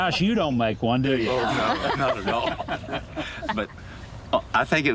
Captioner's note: laughing